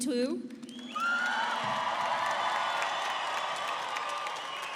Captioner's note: audience cheers